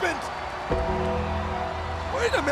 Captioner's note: bell tolls